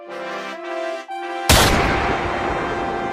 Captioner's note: gunshot